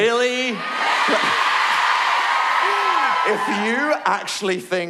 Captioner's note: cheering